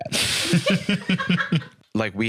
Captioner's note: laugh